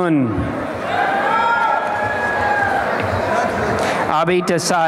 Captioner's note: applause and cheering